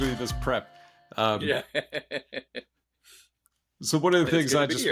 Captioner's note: laughs